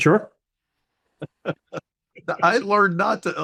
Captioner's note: HR laughing